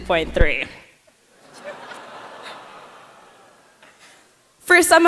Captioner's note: laughter